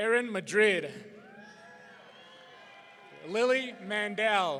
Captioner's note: audience cheering